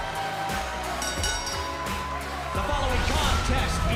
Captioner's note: bell ringing